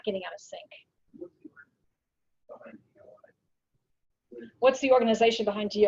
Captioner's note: speaking away from mike